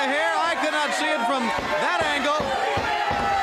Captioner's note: crowd chatter